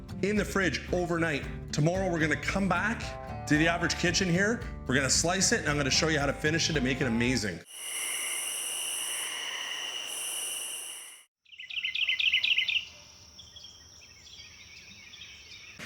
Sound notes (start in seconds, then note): 7.6 crickets chirping; 11.5 birds chirping